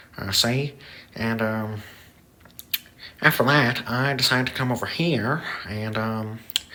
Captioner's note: lip smack; lip smack